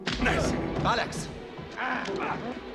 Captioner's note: grunts